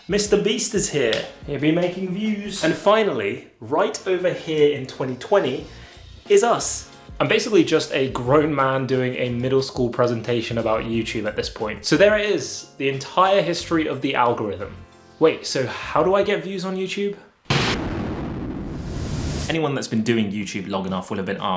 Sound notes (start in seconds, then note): 18.6 static buzzing